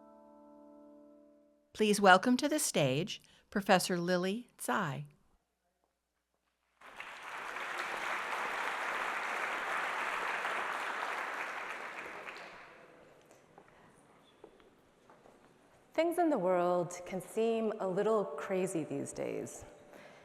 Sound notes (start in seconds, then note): 6.8 applause